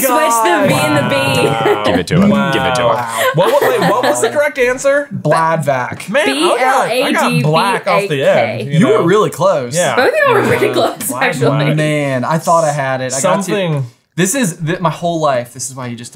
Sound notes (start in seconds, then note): 2.9 laughing